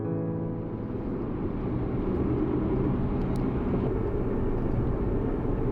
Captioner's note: sounds of the car on road